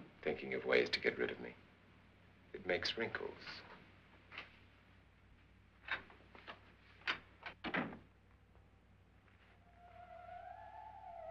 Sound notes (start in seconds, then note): 4.6 door opens; 7.6 door closes; 9.6 eerie music